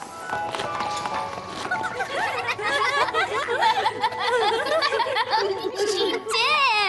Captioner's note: giggling